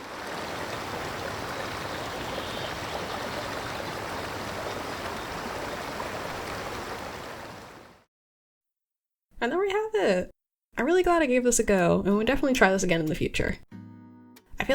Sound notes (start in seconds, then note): 0.0 countryside ambience; 4.9 waterfall ambience